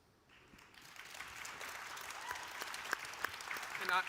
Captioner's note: audience applauds